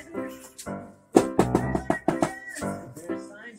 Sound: knocking Door

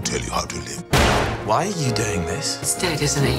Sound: gun bangs

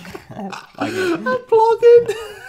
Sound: laughs

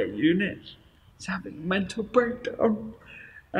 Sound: tearful

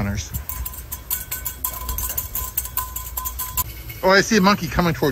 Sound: cup rattling

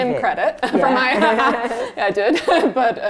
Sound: laughs

